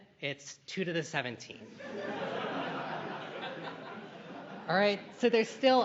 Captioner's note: laughter